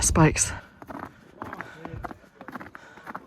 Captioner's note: footsteps crunching